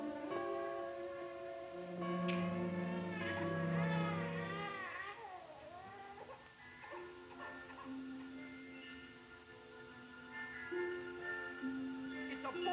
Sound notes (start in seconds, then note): 3.5 baby crying